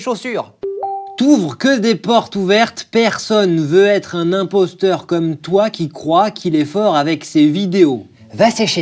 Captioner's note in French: ding